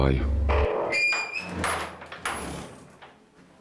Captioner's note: door creaking